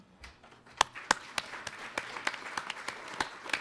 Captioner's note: applause